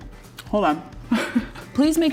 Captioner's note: laughs